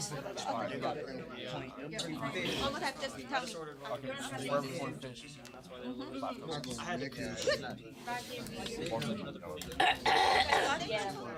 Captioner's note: students murmur